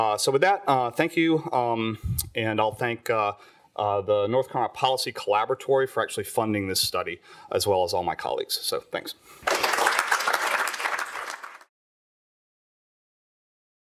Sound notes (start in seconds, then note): 9.4 applause